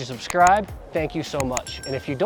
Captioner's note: button clicks; bell dings